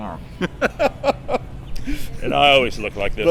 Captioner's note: laughing